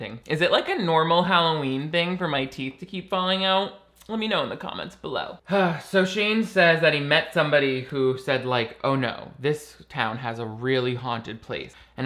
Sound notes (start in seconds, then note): 5.5 sighs